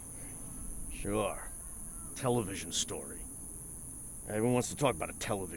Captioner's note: scoffs